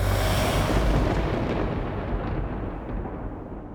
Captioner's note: thunder